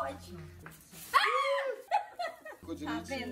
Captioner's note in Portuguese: Gritos